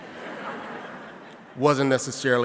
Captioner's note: audience laughing